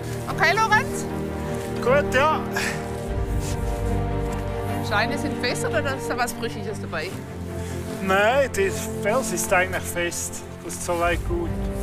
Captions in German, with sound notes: Okay, Lorenz? (laut:) Gut, ja! Scheint etwas besser oder ist da was Brüchiges dabei? Nein, der Fels ist eigentlich fest, ist soweit gut.